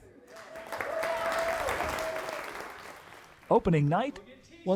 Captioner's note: audience cheering and applauding